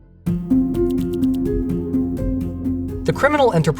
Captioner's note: inquisitive music; text whirring